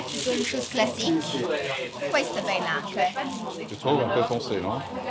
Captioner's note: speaks in Italian